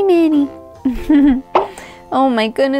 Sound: giggles

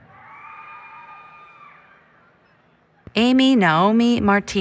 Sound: applause, Cheering

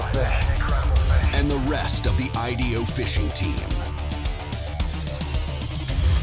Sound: voiceover

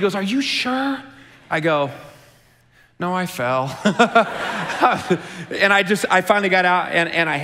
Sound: chuckles

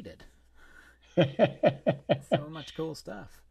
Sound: laughs

